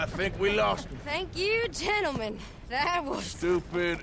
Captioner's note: laughs